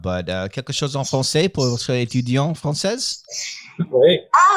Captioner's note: speaking in French